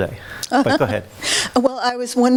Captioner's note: woman laughs